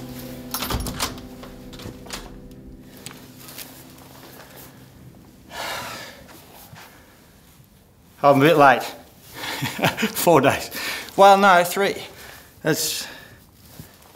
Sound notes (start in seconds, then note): 0.0 opening door; 9.6 laughs